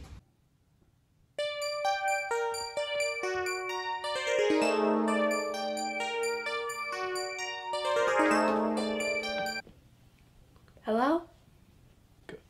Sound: annoying ringtone

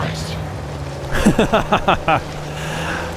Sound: laughs

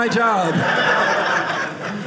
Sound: audience laughing

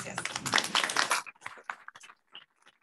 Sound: applause

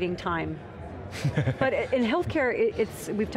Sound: laughter

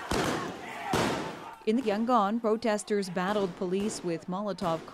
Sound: gunshots

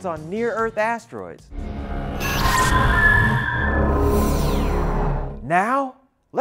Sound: sound Effects

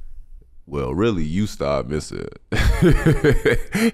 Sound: laughing

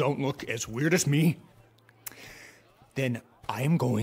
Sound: deep breath

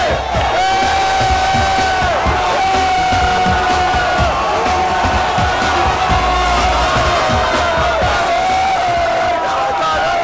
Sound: cheering

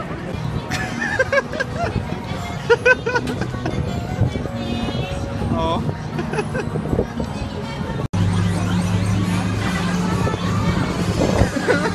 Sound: continuous giggling

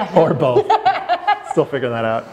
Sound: laughter

